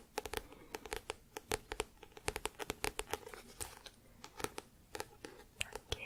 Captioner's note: tapping on book